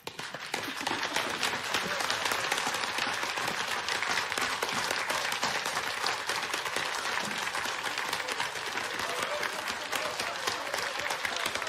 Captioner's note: applause